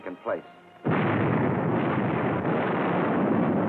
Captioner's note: cannons firing